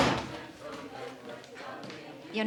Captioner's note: door thudding